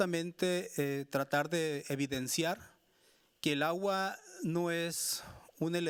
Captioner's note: speaking Spanish continues